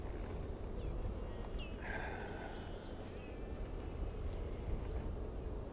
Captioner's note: birds chirping